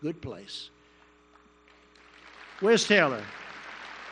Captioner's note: applause